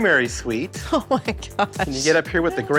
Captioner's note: laughs